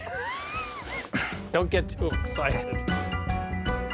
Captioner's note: laughs